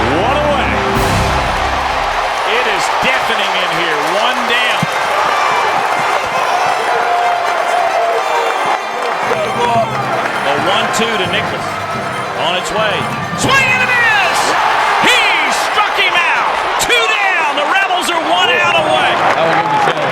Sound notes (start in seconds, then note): 4.1 cheering